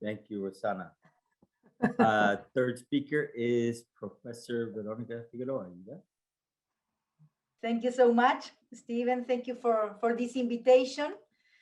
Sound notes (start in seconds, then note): 1.8 laughs